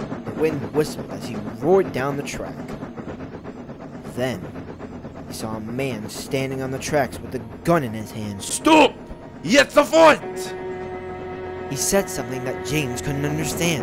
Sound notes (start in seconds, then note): 8.6 speaking german